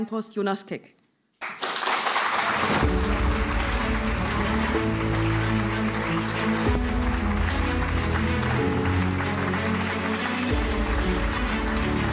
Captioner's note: applause